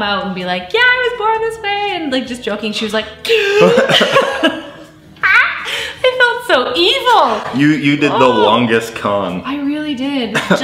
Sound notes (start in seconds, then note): 3.3 laughing; 3.3 gasps